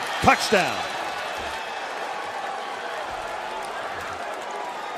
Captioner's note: cheering